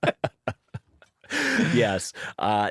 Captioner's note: laughter